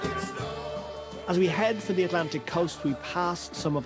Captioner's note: voice-over